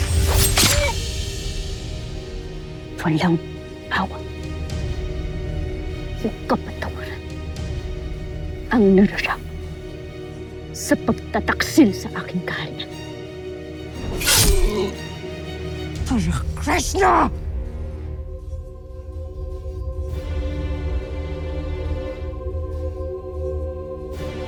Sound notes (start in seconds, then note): 0.1 grunts; 0.2 sword swishes; 14.0 sword swishes; 14.2 groans; 19.8 music swells